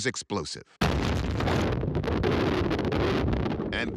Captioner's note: explosion booming